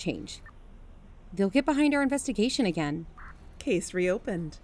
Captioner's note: walking stops